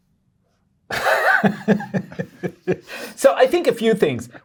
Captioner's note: guy laughing